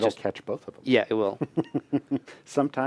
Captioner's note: laughter